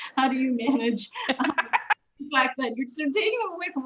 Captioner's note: laughter